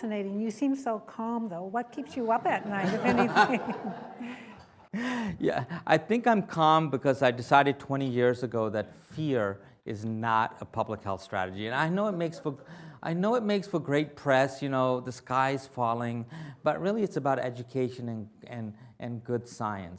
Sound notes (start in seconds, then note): 2.2 laughter